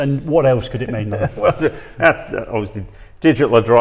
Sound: laughs

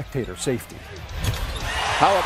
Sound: fans cheering

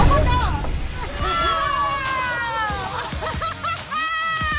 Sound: laughs

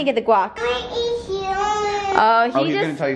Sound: mumbling

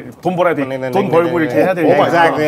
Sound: in Korean

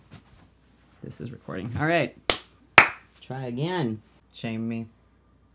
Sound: claps

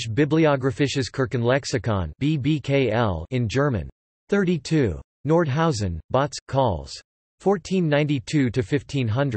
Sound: in German

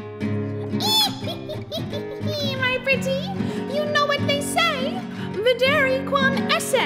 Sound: cackles

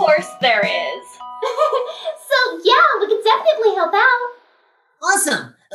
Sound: nervous laughter

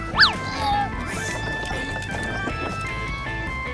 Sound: straining

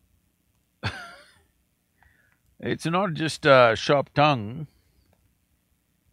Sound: laughs

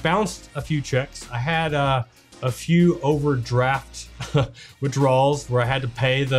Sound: chuckles

